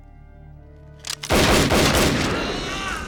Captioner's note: gun clicks; gunshots banging